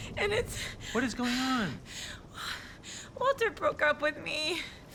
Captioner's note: breaths heavily